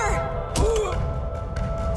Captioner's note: magellan groans